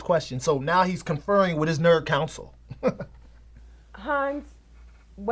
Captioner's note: laughs